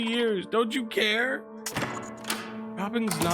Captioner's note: door opens